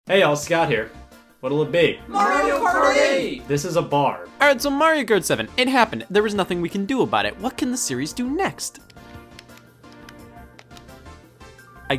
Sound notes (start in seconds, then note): 2.3 crowd; 9.4 upbeat music